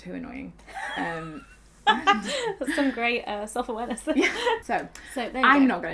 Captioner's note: laughing